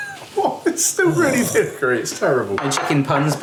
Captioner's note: gasps